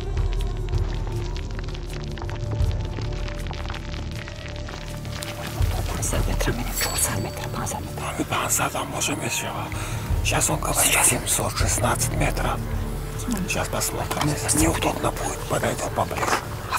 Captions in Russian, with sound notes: [говорят по-таджикски] Сейчас, он говорит, 716 метров. Сейчас посмотрим. Неудобно будет – подойдём поближе.